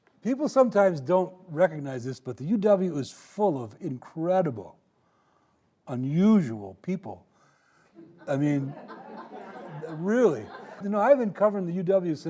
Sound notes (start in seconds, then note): 8.0 audience laughing